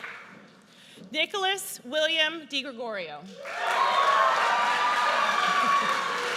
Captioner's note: audience cheers